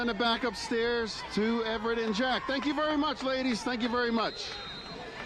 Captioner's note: applause